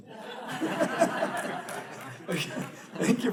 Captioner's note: audience laughs